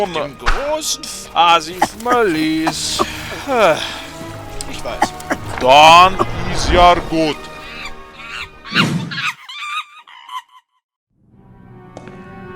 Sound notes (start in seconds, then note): 3.0 sigh; 8.1 monkey screams